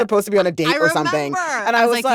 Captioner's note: laughter